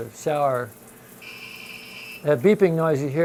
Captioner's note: inverter screeching